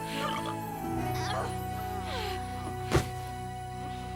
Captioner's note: Gel groans